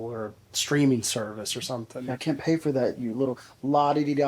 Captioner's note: none